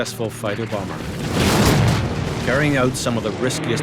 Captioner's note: bomb exploding